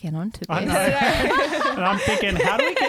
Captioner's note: laughing together